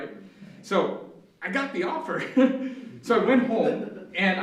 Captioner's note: laughs